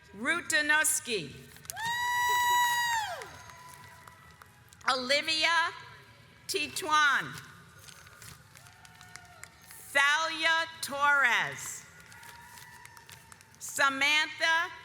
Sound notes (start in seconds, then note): 1.8 audience cheers; 12.2 audience applauds